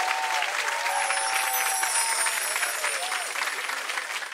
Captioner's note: chimes